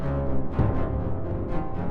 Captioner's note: buzzing turns into ominous cello music; ominous cello music; boom